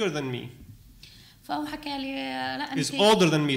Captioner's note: speaking arabic